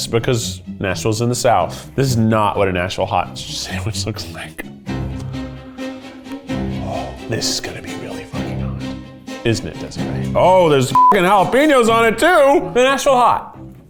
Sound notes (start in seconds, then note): 5.5 suspenseful orchestra music; 10.9 beep